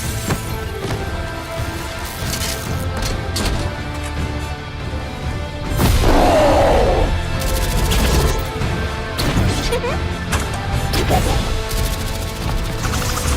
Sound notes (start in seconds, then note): 5.9 roar; 9.5 giggles